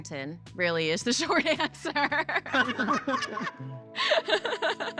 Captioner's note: laughter